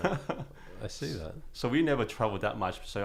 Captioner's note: laughing